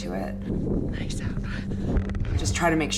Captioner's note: whispering